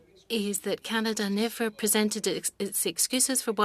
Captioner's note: speaking French